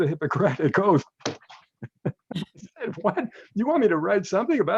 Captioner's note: laughs